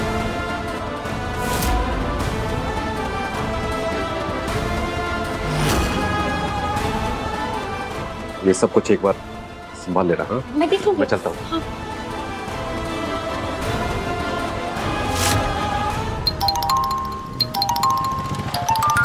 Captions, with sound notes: Take care of everything. - I will see. - I will go. [phone ringing]